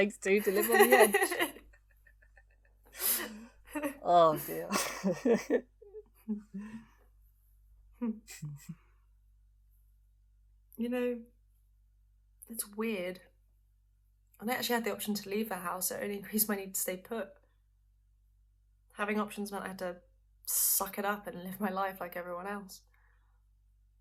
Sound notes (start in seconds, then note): 4.4 both laughing